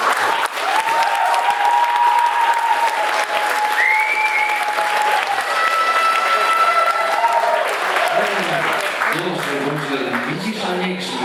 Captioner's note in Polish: Aplauz